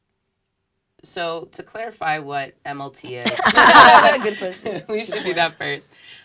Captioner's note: laugh